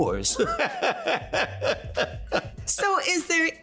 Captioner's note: laughing